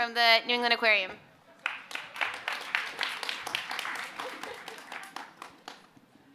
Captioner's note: applause